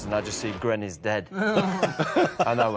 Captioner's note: all laughing